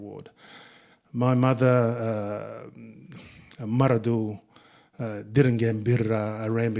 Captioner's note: speaking in Ngunnawal